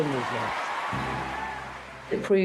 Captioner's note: audience applauds